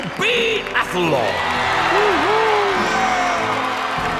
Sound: cheering

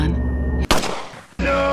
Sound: shot

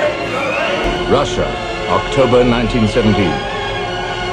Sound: voiceover

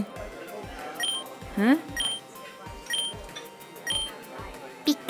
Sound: pager beeps

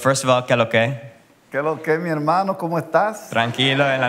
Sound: spanish

